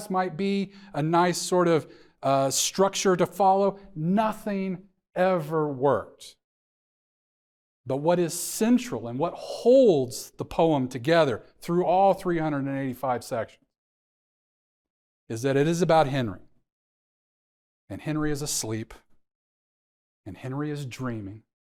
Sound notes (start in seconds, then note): none